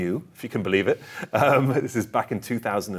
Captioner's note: chuckling